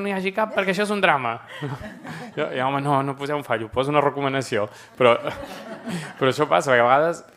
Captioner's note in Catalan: riures